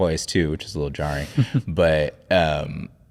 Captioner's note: chuckling